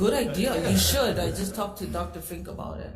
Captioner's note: all laughs